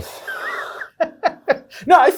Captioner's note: guy chuckles